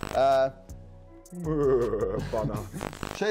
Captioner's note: imitates deer noises